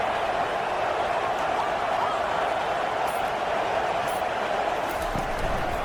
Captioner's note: crowd Noises